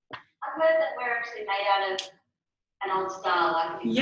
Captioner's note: voice off screen